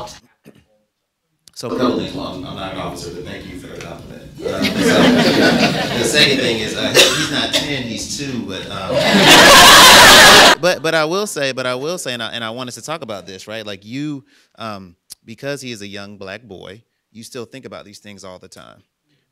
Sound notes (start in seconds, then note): 0.9 audio cuts off; 4.4 audience laughing; 8.7 audience laughing